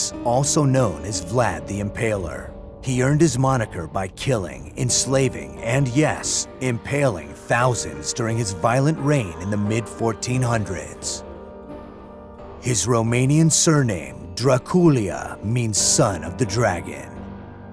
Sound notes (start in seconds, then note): none